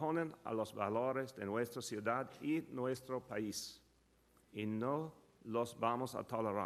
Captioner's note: Mayor de Blasio speaks in Spanish